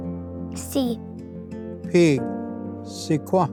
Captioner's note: repeats in Cherokee